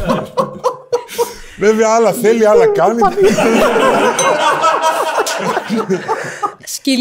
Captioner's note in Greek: γέλια